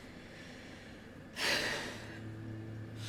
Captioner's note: sighs